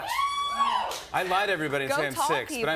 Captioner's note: scattered cheers